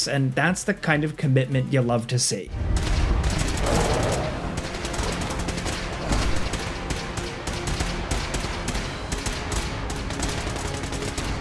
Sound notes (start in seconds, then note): 2.9 gunshots firing; 2.9 intense ambient music; 4.5 monster grunts